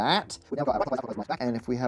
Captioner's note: sped up audio